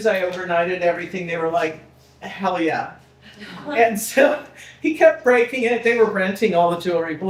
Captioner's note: people laughing